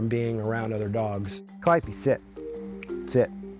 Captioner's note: snaps fingers